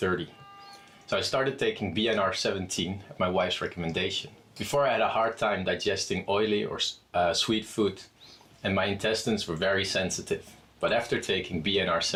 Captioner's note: voiceover